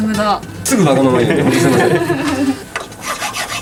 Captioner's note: laughs